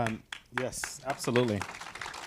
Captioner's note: audience applauding